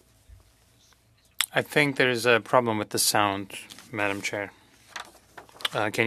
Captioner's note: speaking french